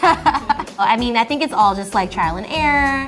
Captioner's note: laughing